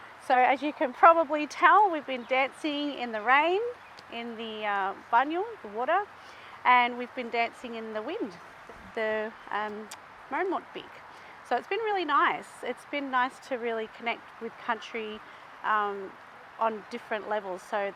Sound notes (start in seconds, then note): 4.4 speaking in Woi Wurrung language; 9.1 speaking in Woi Wurrung traditional language